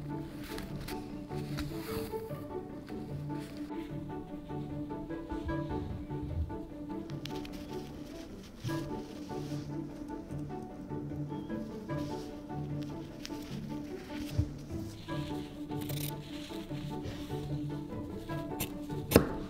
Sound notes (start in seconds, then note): 15.7 scissors grating